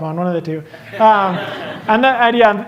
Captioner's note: laughter